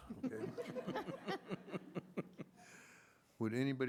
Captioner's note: laughter